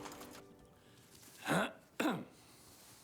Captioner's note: clears throat